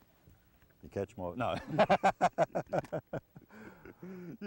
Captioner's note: laughter